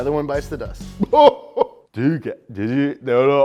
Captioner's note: goofy chuckle